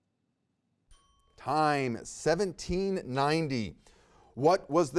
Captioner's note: bell rings